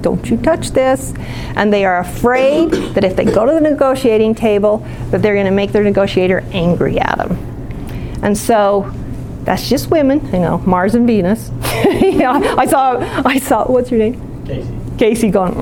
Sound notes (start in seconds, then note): 11.6 laughing